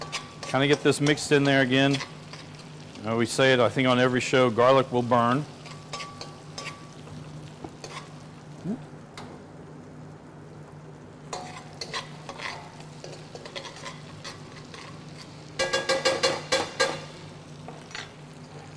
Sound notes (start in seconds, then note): 7.8 utensil scraping; 15.3 utensil thudding